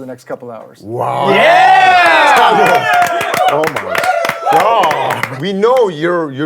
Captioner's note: everyone cheering